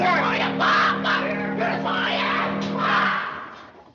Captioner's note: yelling